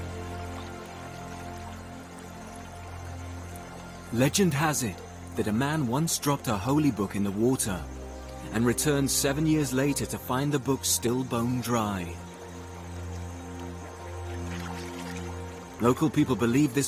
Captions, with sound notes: to find the book still bone dry. Local people believe this water has healing powers. (gentle music continues) (insects buzzing)